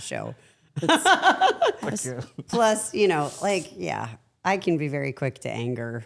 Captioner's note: laughs